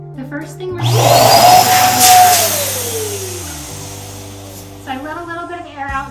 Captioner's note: machine releases air